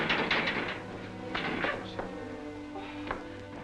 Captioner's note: rattling cage; bang